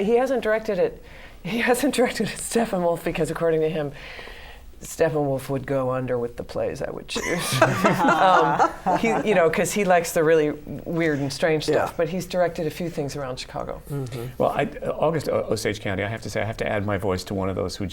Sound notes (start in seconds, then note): 7.2 laughter